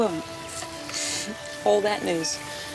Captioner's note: laughs